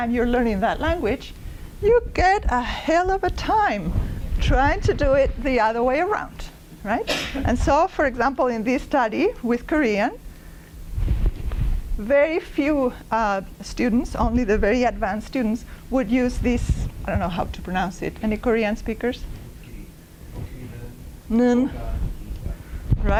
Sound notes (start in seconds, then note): 21.2 korean